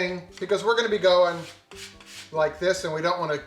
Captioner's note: scraping plastic